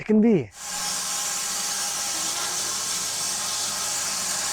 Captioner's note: saw whirring